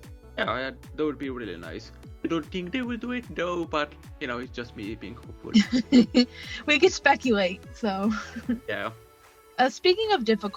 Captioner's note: laughs